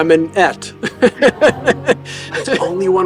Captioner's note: laughing